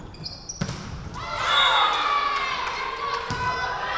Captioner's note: whistle blowing